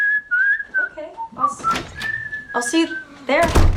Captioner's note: whistling; door opens; door closes